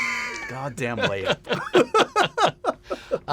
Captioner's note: laughter